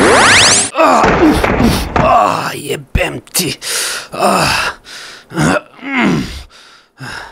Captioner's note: groaning and swearing in pain